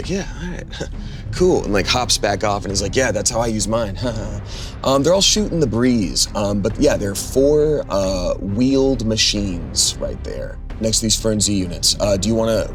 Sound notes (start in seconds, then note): 4.7 laughs